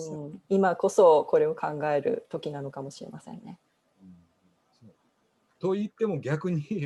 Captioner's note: speaking japanese